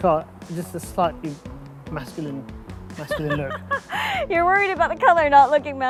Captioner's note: laughs